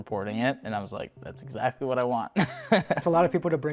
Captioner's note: laughing